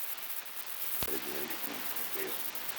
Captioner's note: Truman, mumbling